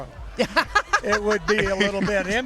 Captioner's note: laughter